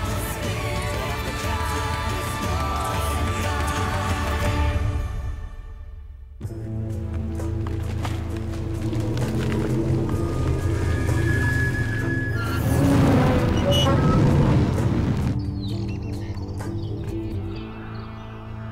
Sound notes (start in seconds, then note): 12.9 machinery creaking; 15.3 birds chirping